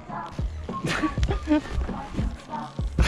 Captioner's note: laugh